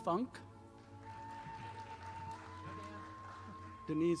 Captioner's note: audience applauding